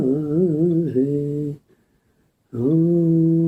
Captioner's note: chanting